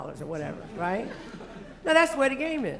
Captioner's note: laughter